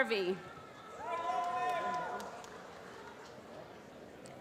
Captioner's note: applause